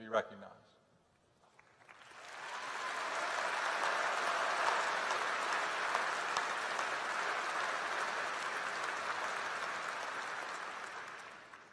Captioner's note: applause